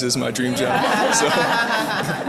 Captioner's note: chuckling